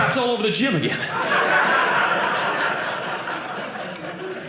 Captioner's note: audience laughing